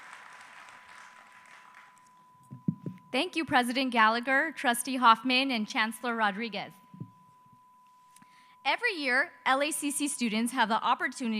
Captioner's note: speaking Spanish